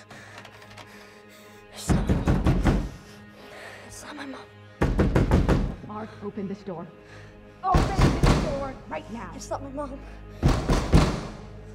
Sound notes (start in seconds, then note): 0.1 knocking continues; 0.3 door knob rattles; 4.8 more persistent knocking; 10.4 banging on the door